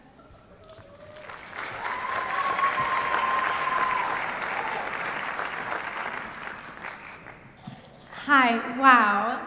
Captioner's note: applause